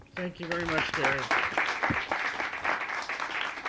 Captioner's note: audience applauding